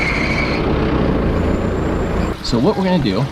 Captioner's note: machine revving